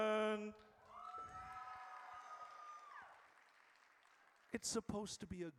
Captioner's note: audience cheers